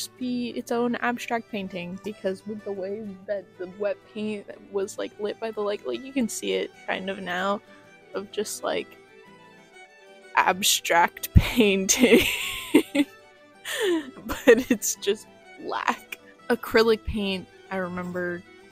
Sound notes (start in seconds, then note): 12.1 laughter